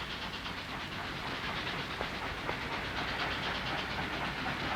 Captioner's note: train pistons turning